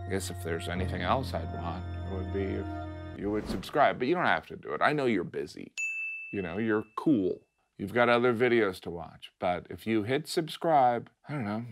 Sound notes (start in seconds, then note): 5.8 bell dings